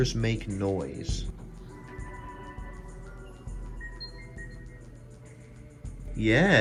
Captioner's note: Linux Lite startup sound